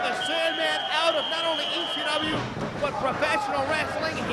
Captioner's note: whistling